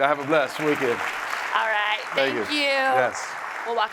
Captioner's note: audience applauds